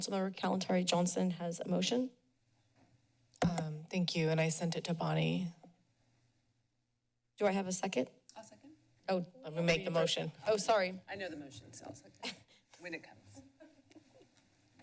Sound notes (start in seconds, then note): 13.4 chuckles